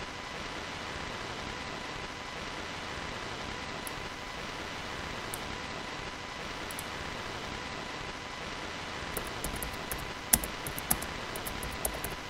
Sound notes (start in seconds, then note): 5.1 mouse click drop; 6.6 mouse click; 10.2 typing